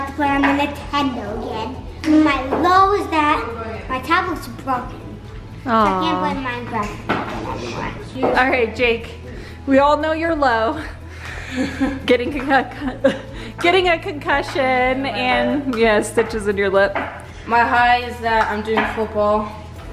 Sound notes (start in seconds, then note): 11.4 giggles